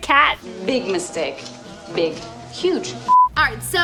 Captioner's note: beep